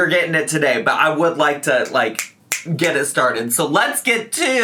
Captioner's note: snaps